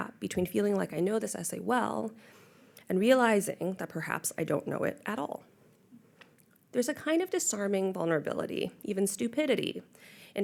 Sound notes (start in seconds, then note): none